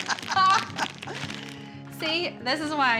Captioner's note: both laughing